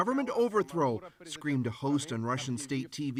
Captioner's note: speaking russian